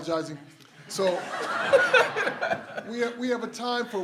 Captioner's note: everyone laughs